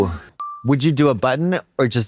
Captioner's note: pause bell